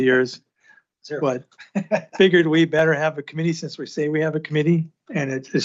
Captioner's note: laughter